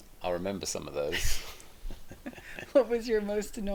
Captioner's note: both laughing